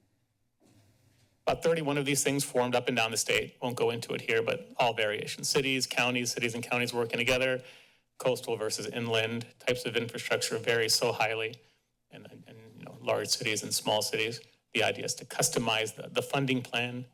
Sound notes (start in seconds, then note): none